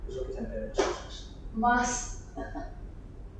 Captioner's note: laughs